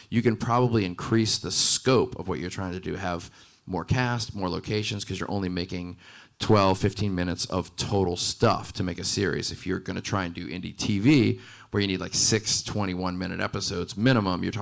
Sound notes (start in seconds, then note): none